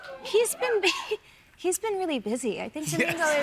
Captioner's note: chuckles